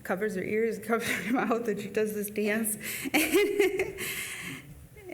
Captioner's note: laughs